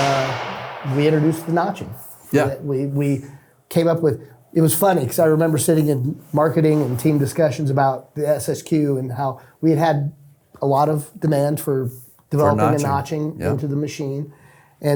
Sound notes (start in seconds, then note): none